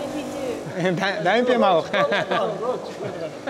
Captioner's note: laughter